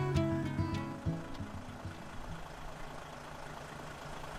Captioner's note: engine idling